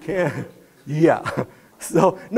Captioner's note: laughing